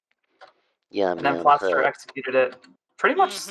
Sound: cartoony voice

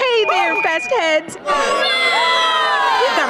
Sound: cheering

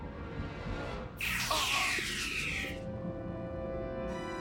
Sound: groaning

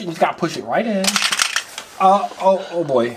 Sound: toy clicking

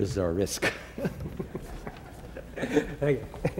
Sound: laughter

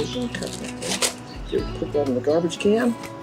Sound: paper crumbling

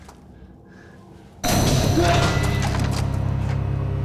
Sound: dramatic music; man shouts

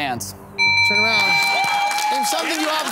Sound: buzzer ringing

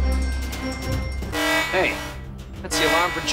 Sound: alarm buzzing

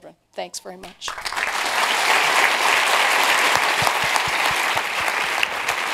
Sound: applause

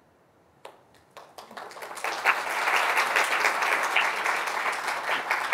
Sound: audience applauding

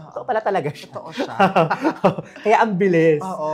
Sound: laughs

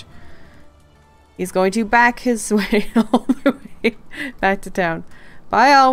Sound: laughing

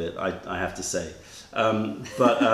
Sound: laughter

